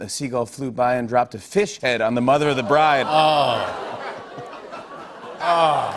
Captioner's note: audience groans